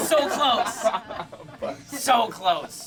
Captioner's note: laughing